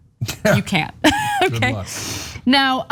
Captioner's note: laugh